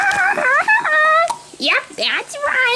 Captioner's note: laughs